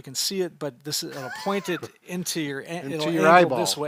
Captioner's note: laughing